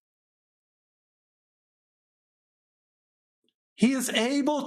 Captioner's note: silence